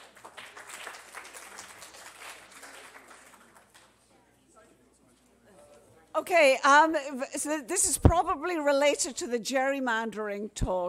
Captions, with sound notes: ANNOUNCING THE WINNERS. SO THANK YOU SO MUCH FOR YOUR ATTENTION. (APPLAUSE)